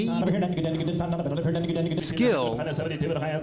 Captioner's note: rapid Auctioneer chant